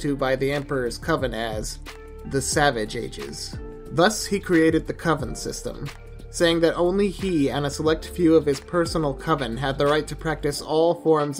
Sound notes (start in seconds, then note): none